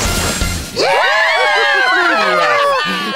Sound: audience cheers

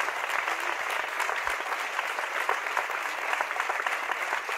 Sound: audience applauds

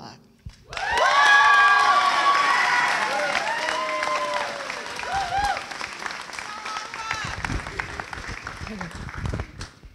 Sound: cheering

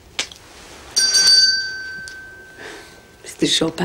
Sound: bell rings

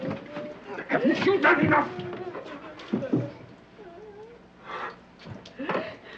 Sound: Petronella whimpering

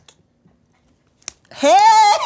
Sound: smacks

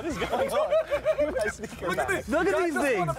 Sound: laughing

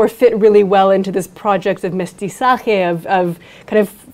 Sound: speaks in foreign language

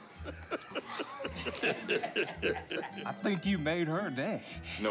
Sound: laughing

